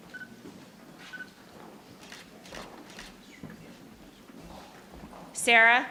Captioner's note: camera beeps and shutters